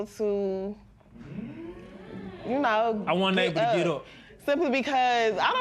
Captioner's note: spectators murmur